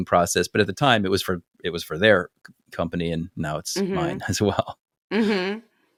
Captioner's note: laugh